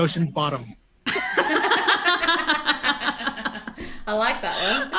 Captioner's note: all laugh